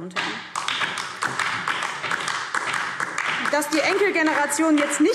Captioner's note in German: Beifall DIE LINKE